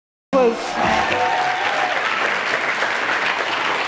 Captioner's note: applause